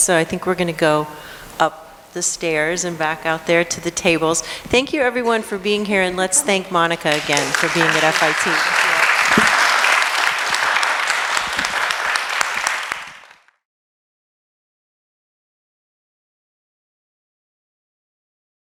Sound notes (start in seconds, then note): 13.8 applause